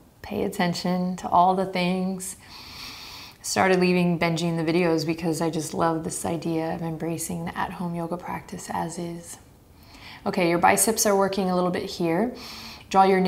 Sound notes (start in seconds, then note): 2.4 inhaling deeply